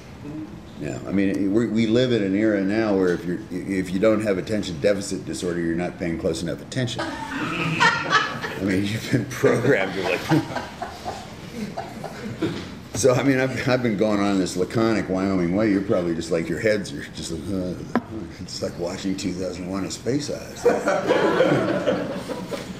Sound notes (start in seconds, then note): 7.0 laughter